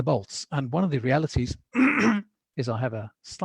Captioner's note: coughs loudly